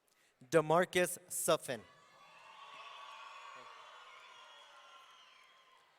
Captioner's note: audience cheering